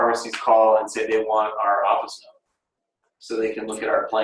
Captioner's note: mutters